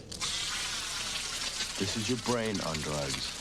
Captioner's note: sizzling